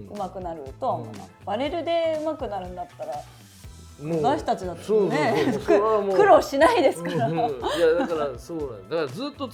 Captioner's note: laughs